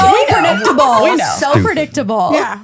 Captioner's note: laughing